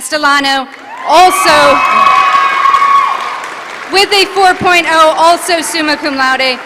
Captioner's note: applause